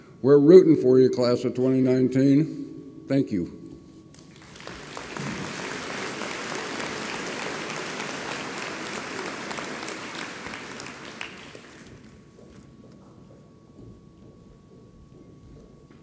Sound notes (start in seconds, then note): 4.2 audience applauds